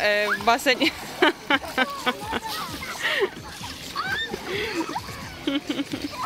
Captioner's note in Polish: śmiech